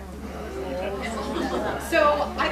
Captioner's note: people chattering